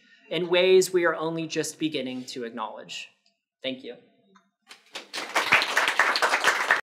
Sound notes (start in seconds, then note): 4.8 attendees applauding